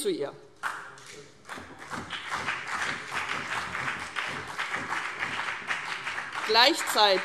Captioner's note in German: Beifall CDU und BÜNDNIS 90/DIE GRÜNEN